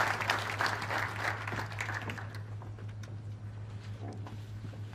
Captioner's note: applause